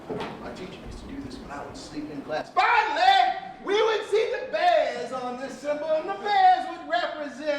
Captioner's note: yelling